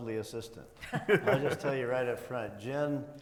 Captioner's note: panelists chuckling